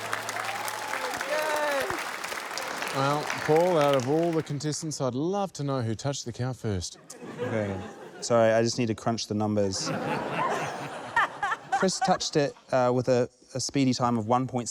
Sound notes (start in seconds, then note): 7.0 laughter; 9.7 laughter